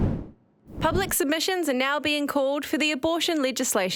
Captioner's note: voiceover